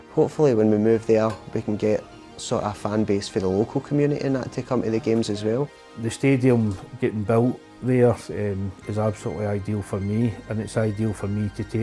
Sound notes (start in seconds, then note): none